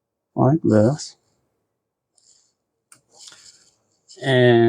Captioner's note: silence